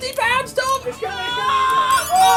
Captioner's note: screams